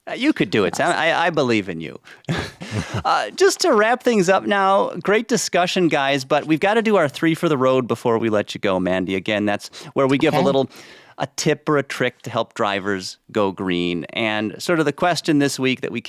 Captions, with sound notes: You could do it, Sam. I believe in you. [laughs] -[laughs] -Just to wrap things up now, great discussion, guys, but we've got to do our three for the road before we let you go, -Mandi. Again, that's where we- -Okay ... give a little tip or a trick to help drivers go green. And sort of the question this week that we